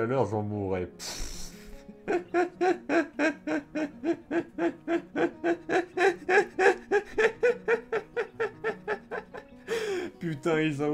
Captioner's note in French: Rires